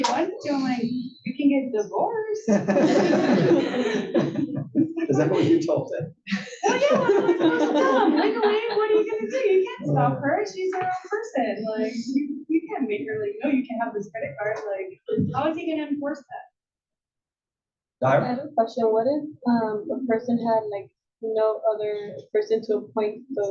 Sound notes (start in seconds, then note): 5.3 laugh